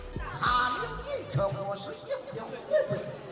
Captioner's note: speaking native language